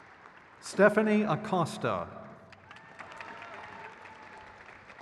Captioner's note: crowd cheers